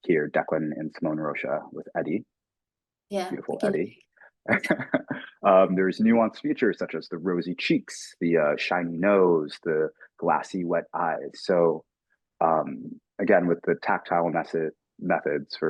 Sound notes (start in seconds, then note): 4.5 laughing